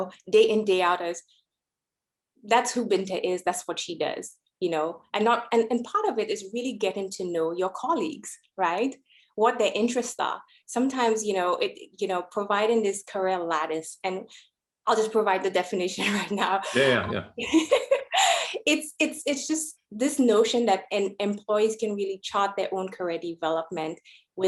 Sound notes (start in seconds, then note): 16.7 laughs